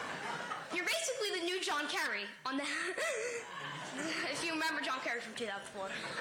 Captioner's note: laughter